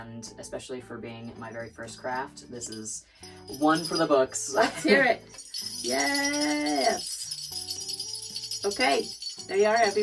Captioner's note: ringing